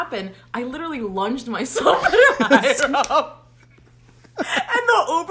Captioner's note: both laugh